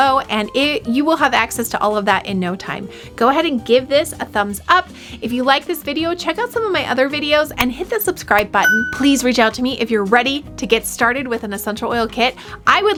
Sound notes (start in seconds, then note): 8.6 bell dings